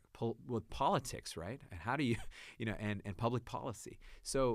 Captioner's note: laughs